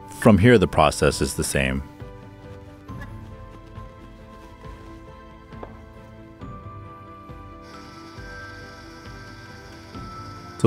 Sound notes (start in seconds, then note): 2.4 knife chopping; 2.4 tranquil music; 7.6 machine whirring